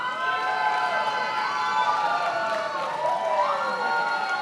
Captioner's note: attendees applauding